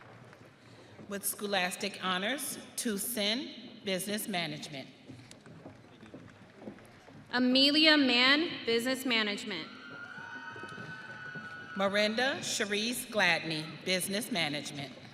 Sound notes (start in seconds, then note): 0.1 audience applauding; 6.2 audience applauding; 10.0 audience cheering